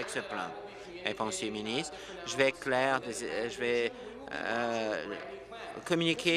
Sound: applause

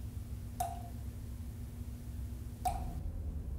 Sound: water dripping

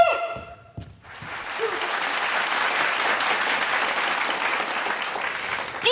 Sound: applause

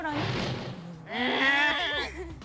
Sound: growl

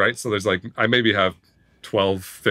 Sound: none

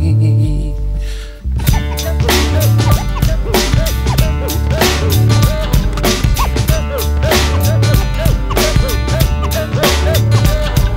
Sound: record scratching

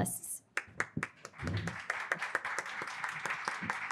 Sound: all clapping

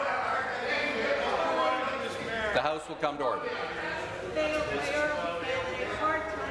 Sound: conversation din

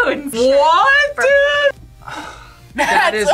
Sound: sighs

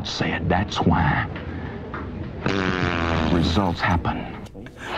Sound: fart noise

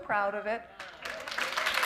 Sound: applause

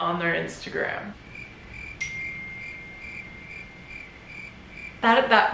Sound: crickets

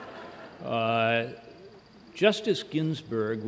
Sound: laughter

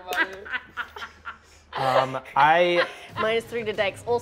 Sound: laughing

